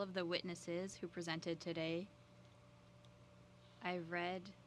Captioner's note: speaking French